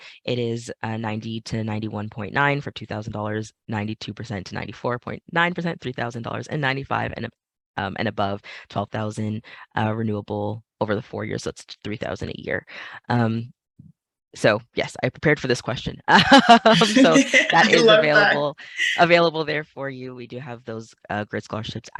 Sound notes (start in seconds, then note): 16.2 laughs